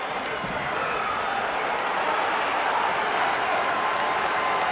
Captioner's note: audience cheering